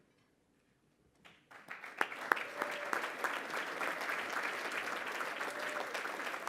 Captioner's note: applause